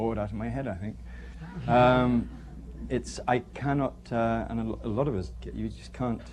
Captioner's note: laughter